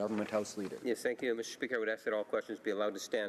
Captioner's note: speaking French